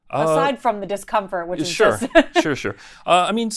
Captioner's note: laughing